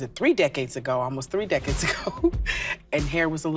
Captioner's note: chuckles